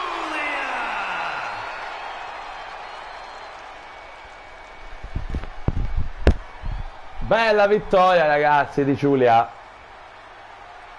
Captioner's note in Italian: Applauso